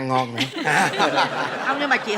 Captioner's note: laughing